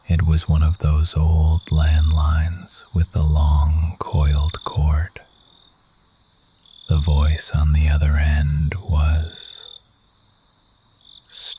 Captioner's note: whispering